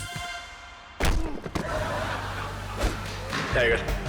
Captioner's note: body thumping